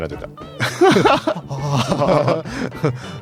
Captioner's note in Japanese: 笑い